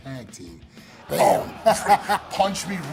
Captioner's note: laugh